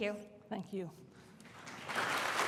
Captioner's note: applause